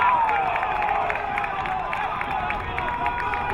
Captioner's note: crowd cheering